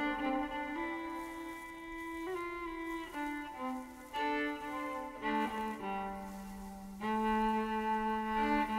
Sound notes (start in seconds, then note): 2.1 footsteps rustling